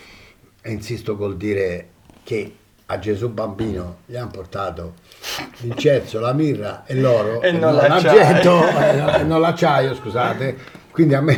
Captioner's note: laughs